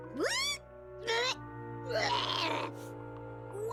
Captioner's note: gagging